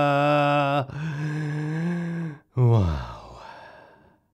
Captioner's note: takes deep breath